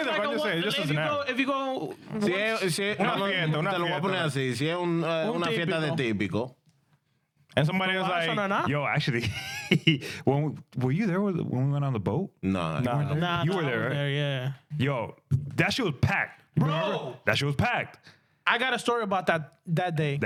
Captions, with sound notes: (Speaking In Spanish) And somebody was like, "Yo, actually, were you there when we went on the boat?" No. No, no. You were there. Yeah. Yo, that shit was packed. Bro. That shit was packed. I got a story about that day.